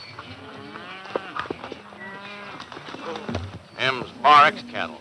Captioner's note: cattle mooing